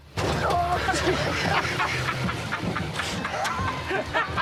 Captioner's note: laughing